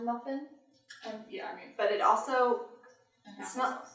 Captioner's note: smelling